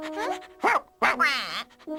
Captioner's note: barks; quacks